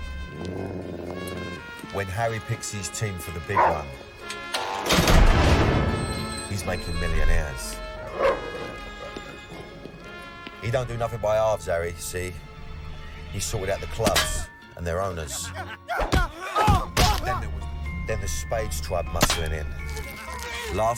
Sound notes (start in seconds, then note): 0.0 dog growls; 8.1 dog barks; 15.3 man grunts